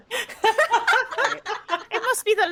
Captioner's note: all laughing